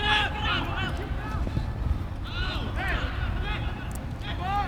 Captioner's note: players shouting